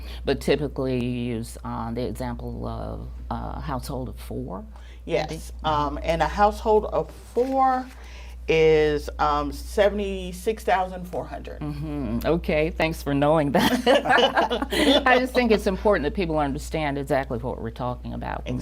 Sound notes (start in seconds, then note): 13.7 laughs